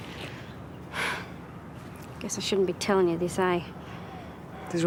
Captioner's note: sighs